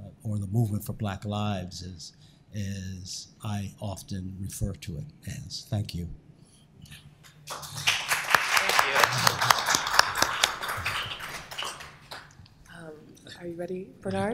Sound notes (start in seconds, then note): 7.3 applause